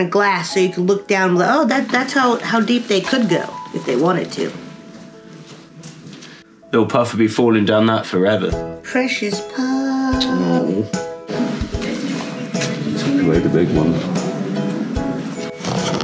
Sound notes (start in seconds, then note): 10.3 mumbles